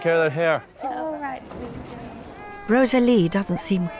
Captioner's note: crying